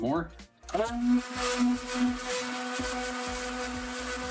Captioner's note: machine whirring